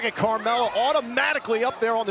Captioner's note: crowd cheering